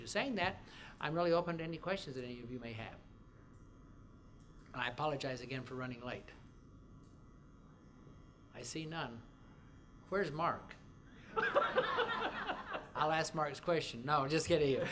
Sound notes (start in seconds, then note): 11.3 laughter